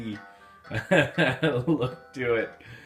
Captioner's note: laughs